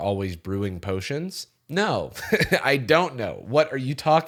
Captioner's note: laughs